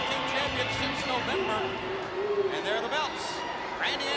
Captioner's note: crowd cheering